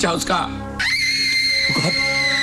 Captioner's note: Durga screaming